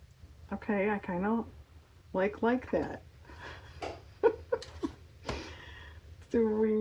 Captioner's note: laughs